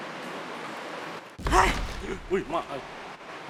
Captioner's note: boom!!